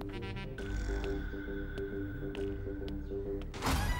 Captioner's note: Footsteps